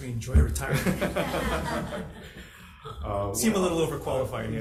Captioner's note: audience chuckling